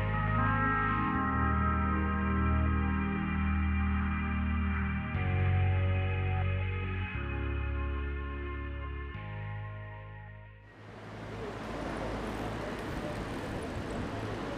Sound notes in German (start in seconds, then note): 8.3 Musik klingt aus; 10.7 Verkehrsrauschen